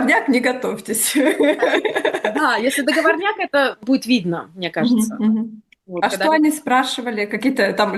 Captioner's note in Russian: смех